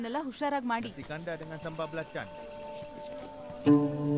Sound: Malay Language

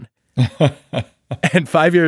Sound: laughing

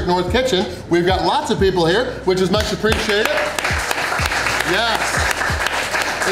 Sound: crowd cheering

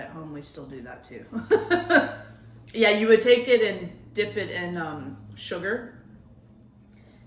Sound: laughs

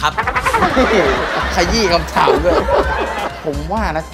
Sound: laughter

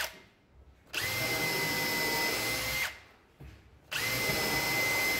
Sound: drill whirring

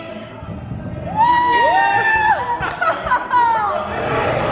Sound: cheering

